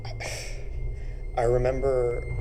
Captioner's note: Jack sighs